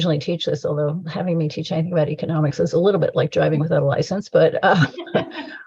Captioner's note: laughter